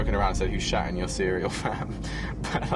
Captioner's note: laughing